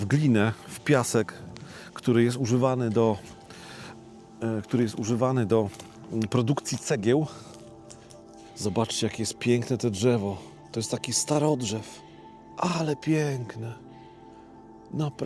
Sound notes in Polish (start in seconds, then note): none